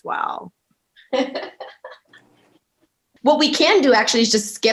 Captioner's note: chuckles